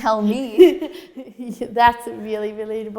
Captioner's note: laughing